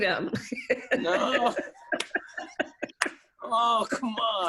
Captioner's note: laughter